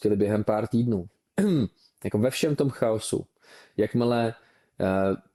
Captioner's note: clears throat